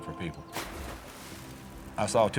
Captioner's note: water splashes